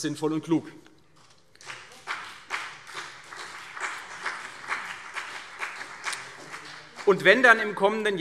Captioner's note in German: Beifall CDU und BÜNDNIS 90/DIE GRÜNEN